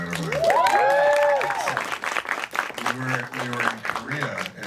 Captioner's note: crowd applauds